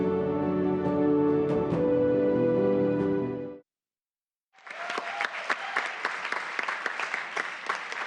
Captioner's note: applause